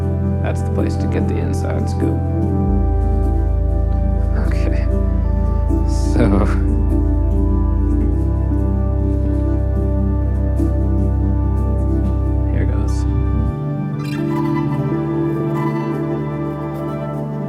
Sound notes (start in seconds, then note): 6.0 laughs